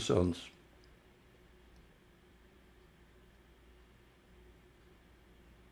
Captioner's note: pauses 6 seconds